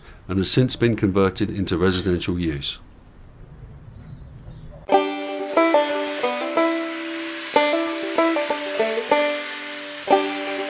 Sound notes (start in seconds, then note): 4.9 bright upbeat music; 5.0 grinder revving